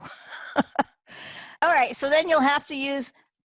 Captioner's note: chuckles